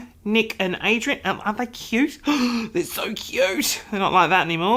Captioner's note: gasps